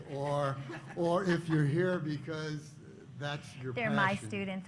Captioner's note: laughter